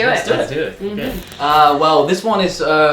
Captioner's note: static